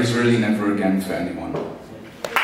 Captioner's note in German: Beifall